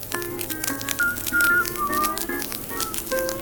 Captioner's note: whistling